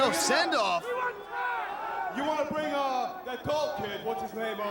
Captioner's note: crowd chatter